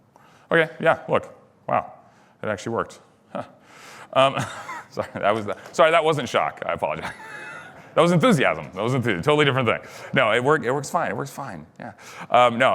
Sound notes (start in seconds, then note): 4.3 chuckles; 6.9 laughter